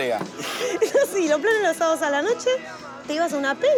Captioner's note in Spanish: Roxi, riendo